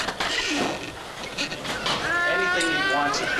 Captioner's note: machinery whirring